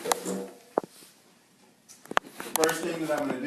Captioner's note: chair scrapes on floor